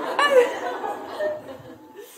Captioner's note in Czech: smích